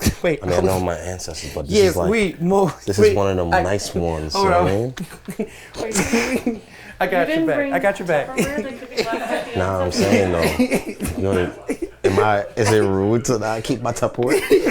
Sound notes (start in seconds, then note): 0.0 people chuckle; 10.0 snickers; 14.2 everyone chuckles